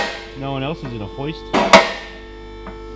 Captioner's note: car lifter clicks